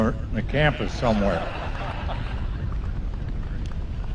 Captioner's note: laughter